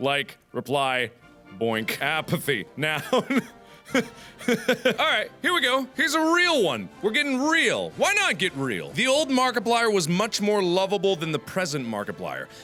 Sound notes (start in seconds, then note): 3.8 laughter